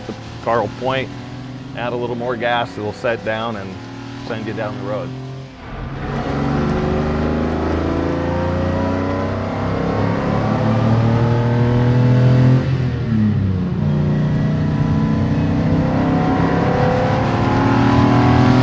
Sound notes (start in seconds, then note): 6.6 engine revving and shifting